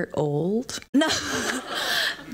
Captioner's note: laughter